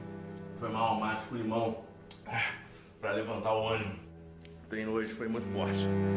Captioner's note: sighs